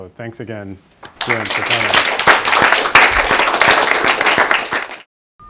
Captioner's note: attendees clapping